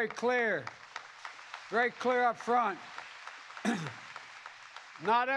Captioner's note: applause